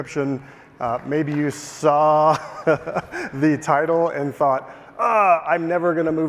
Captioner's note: laughing